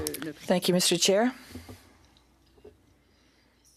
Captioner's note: speaking in French